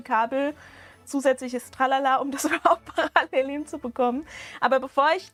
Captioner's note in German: Gelächter